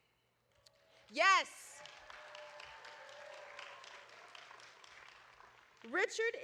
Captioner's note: audience applauding